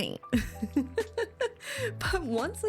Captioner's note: laughs